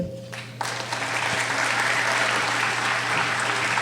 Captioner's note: applauding